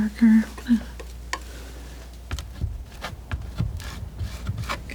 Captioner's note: tapping